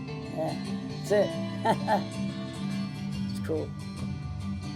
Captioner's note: laughs